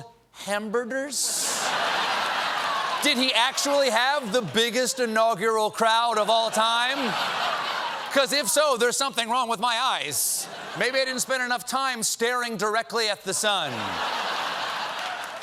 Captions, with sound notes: IS IT ACTUALLY SPELLED, "HAMBERDERS?" ( LAUGHTER ) DID HE ACTUALLY HAVE THE BIGGEST INAUGURAL CROWD OF ALL TIME? ( LAUGHTER ) BECAUSE, IF SO, THERE'S SOMETHING WRONG WITH MY EYES. MAYBE I DIDN'T SPEND ENOUGH TIME STARING DIRECTLY AT THE SUN.